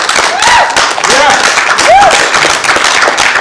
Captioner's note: applause